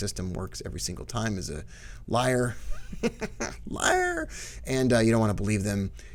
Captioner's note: laughs